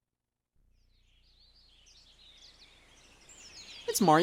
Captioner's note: birds chirping